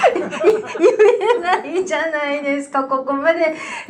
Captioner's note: laughs